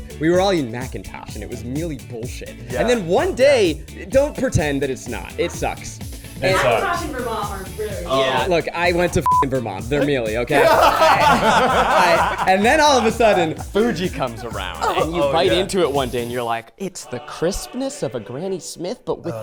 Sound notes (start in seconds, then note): 9.9 people laughing